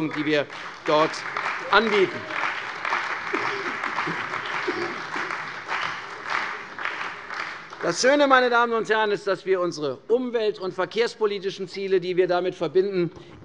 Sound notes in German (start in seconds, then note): 2.6 Beifall bei der CDU und dem BÜNDNIS 90/DIE GRÜNEN